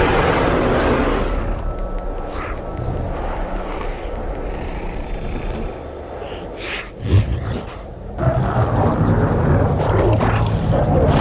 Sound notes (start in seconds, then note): 2.4 bear grunting